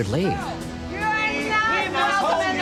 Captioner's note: all together screaming